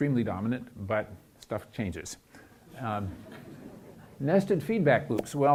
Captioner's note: chuckling